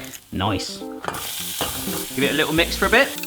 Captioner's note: oil sizzling